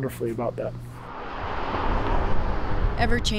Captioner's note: car engine revving